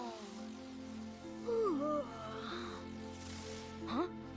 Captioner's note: yawns